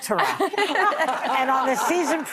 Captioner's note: laughing